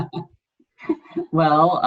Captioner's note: laughing